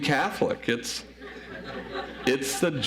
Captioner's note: audience laughs